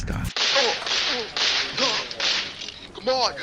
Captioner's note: gunshots